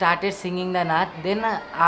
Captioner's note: speaks in foreign language